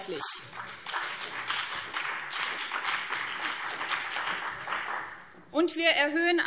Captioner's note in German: Beifall BÜNDNIS 90/DIE GRÜNEN und CDU